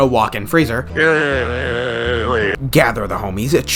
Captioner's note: ghuhuhuhahahahweeeyu